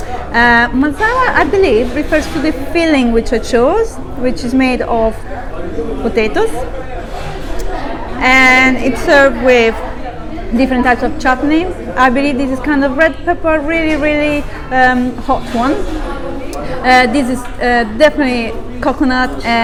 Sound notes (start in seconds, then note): none